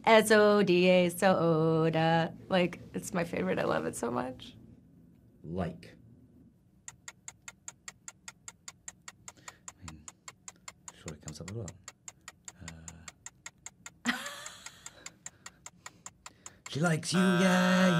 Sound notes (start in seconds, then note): 6.8 timer ticking; 13.1 timer ticking; 14.0 Evan laughing; 16.8 timer buzzing